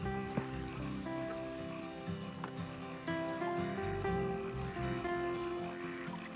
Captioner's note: gentle music; ducks quacking